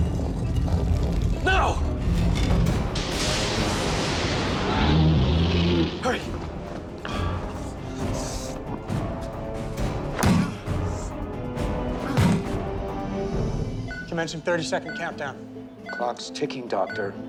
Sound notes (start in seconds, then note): 2.2 thunder crashing; 4.6 growls